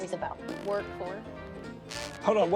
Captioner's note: blows air between his lips